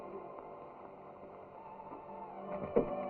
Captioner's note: none